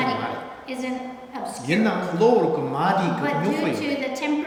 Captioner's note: speaking tibetan